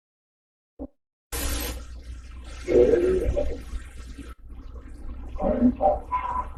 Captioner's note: running water and grunting